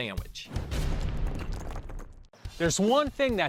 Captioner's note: thudding